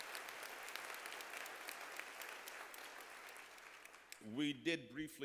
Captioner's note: applause